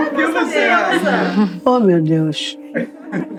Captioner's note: people laughing